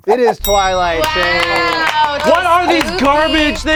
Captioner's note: all cheering